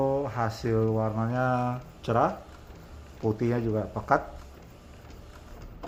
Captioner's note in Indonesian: suara mesin printer